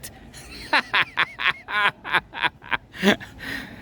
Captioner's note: laughs